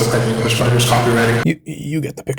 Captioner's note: stammering